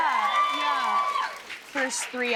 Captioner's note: cheers and applause